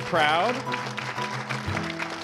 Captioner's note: applause